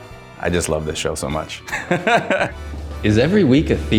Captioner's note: chuckles